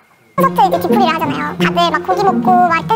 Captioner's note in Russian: с чувством